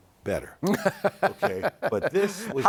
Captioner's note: laughing